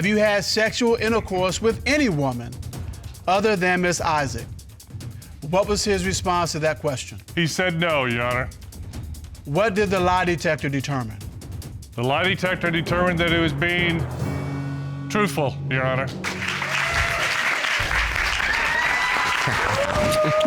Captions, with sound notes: have you had sexual intercourse with any woman other than Ms. Isaac?" What was his response to that question? He said, "No," Your Honor. What did the lie detector determine? The lie detector determined that he was being... truthful, Your Honor. [audience cheering]